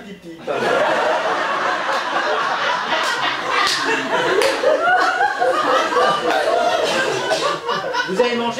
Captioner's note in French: rires public